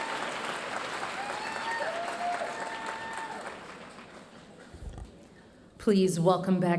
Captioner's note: audience applauding